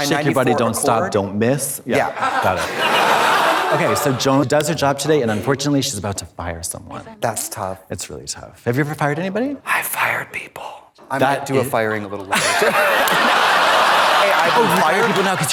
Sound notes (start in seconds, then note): 2.0 audience laughs; 12.2 audience laughs; 12.3 Katya giggles